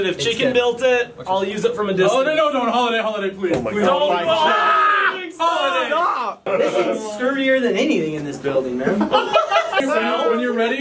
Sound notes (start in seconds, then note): 4.8 all shouting